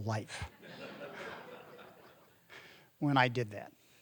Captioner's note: audience laughing